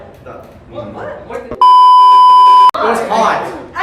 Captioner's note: beep sound effect